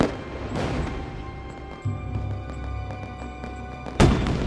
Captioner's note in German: Feuerwerk geht weiter